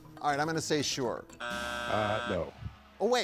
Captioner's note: buzzer drones